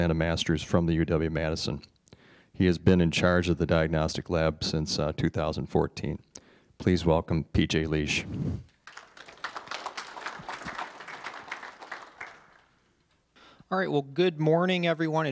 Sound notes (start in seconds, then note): 8.8 applause